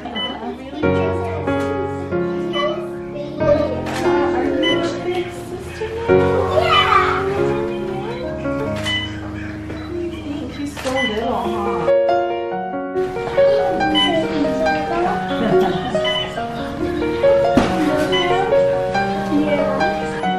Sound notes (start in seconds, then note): 0.0 laughing; 1.1 piano music builds; 9.0 monitor beeping, piano music; 15.3 grandma chuckles